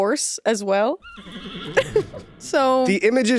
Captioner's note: horse neighing